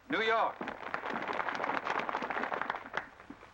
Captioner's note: applause